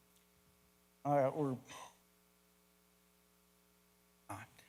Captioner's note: speaker getting emotional